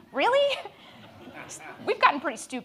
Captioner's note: audience laughs